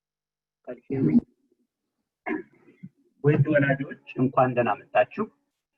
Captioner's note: in foreign language